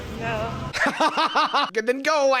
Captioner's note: cackles